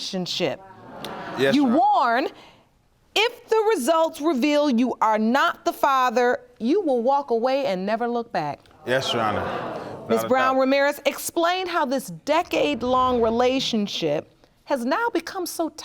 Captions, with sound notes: Yes, Your Honor. You warn if the results reveal you are not the father, you will walk away and never look back? (AUDIENCE GASPING) Yes, Your Honor. Without a doubt. Miss Brown-Ramirez, explain how this decade-long relationship has now become so toxic.